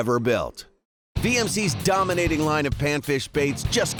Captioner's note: voiceover